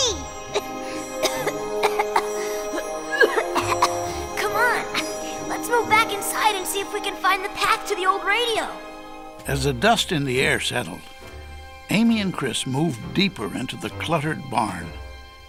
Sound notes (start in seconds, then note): 0.0 coughing